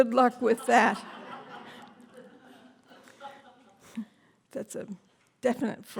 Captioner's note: laughter